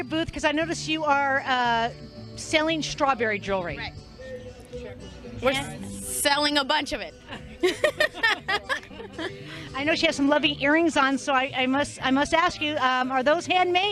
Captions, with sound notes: booth because I noticed you are selling strawberry jewelry. Right. Yes. We're selling a bunch of it. [laughter] I know she has some lovely earrings on, so I must ask you, are those handmade?